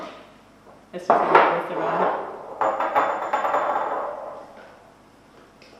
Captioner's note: jars sliding across counter